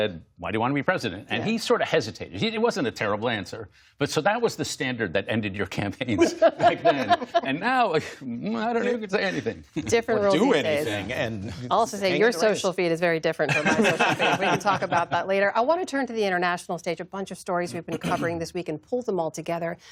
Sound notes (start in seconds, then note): 10.4 laughter